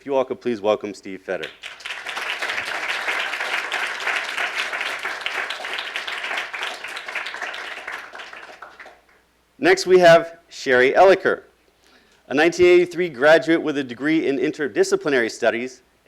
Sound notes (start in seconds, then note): 1.4 applauding